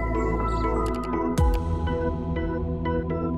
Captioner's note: Clicks